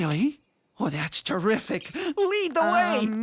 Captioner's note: laughing